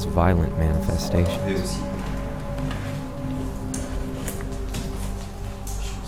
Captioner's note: speaks French